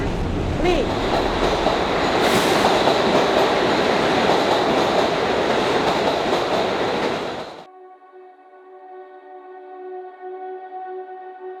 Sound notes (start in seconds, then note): 2.7 train clicking; 8.2 lighthearted music